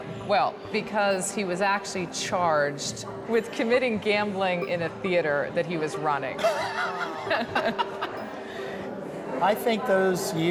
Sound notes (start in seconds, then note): 6.4 laughter